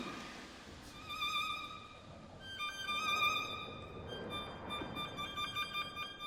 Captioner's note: dramatic orchestral music; whirring